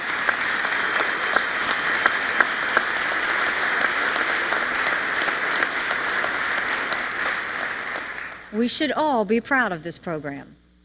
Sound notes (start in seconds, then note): 3.2 applause